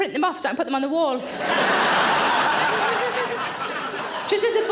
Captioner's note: audience laughing